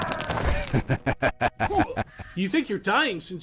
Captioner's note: player character laughs